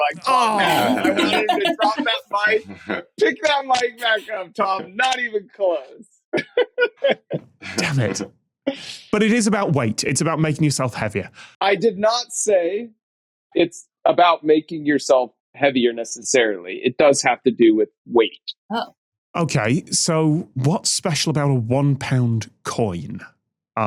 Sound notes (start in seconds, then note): 6.3 giggles